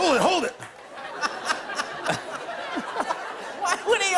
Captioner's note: light laughter